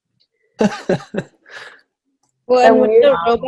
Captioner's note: laughs